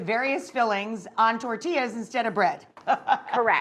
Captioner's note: laughs